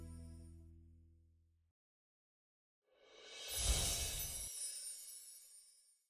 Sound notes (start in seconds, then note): 3.2 whooshing sound